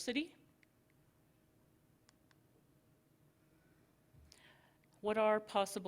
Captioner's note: silence